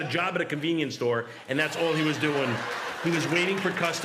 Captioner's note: laughter